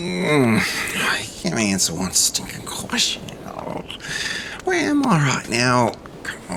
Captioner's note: frustrated groan